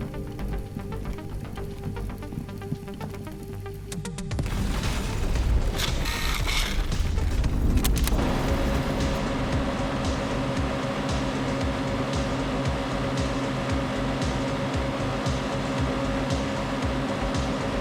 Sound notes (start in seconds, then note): 4.2 car engine roaring; 4.2 dramatic music; 12.5 car engine roaring; 12.5 upbeat music